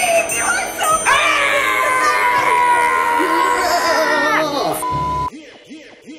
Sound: screaming; beep

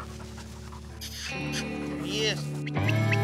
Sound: dog panting; calling; whistling

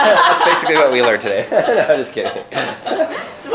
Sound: laughter

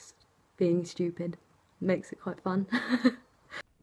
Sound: laughs

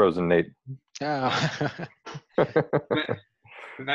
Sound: chuckle

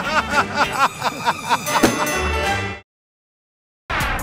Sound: laughter; ding!

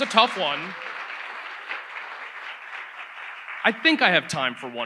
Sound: audience applauds

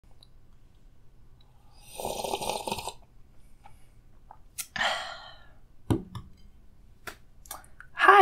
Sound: coffee Drinking Noises

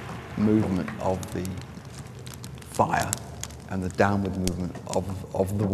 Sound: fire crackling

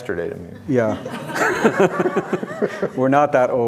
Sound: audience laughing

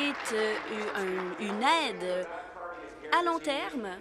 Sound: applause

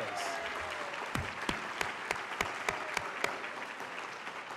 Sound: cheers and applause

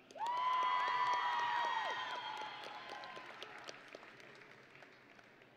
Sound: audience and graduates cheering

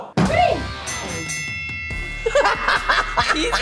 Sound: bell dings; laughs

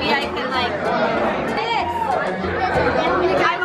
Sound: shouting

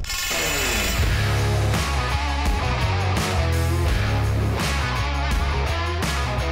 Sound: metal clanging; energetic rock music

